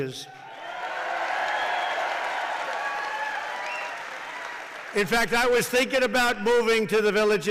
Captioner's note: applause